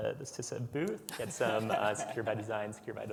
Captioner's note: panelists laugh